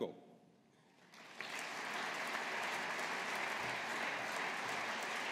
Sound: audience applauding

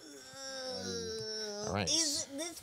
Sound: groaning

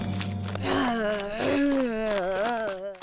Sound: groans

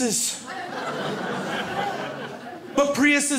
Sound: crowd laughs

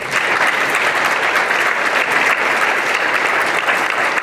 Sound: applause

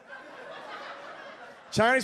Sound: audience laughs

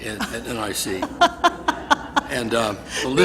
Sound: laughs

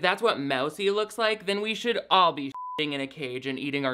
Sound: beep

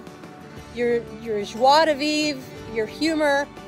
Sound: speaking in foreign language

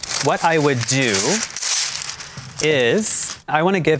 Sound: paper ripping

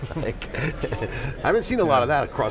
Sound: laughs

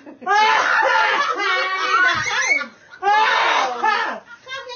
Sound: laughing

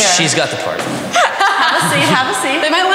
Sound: laughing

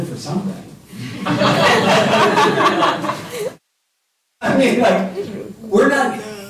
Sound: laughter

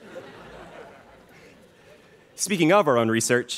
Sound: students laughing

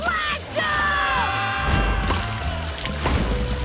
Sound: screaming

